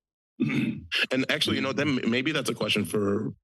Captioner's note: clears throat